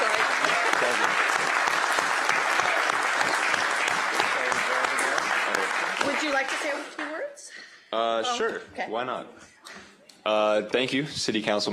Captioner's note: applause